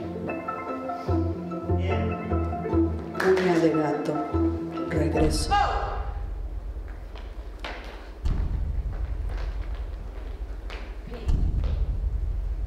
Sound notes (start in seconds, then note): 3.4 speaking in Spanish; 8.1 tense pounding